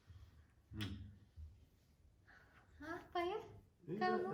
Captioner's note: smooch